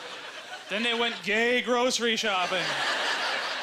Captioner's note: audience laughter